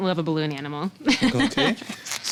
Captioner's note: chuckling